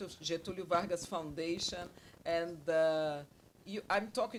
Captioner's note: speaks Portuguese